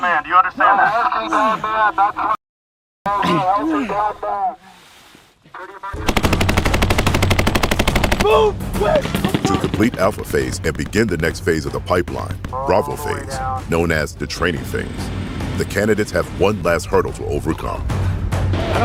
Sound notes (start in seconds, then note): 3.1 men grunting; 6.0 weapons firing